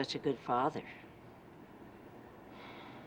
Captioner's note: sighs